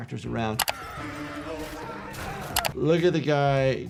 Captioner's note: bar patrons screaming